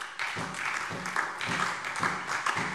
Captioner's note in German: Beifall SPD und DIE LINKE